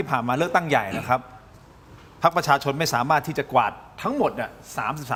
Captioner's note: clears throat